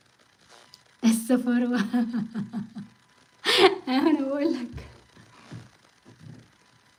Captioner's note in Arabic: ضحك